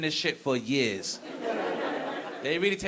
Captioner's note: audience laughing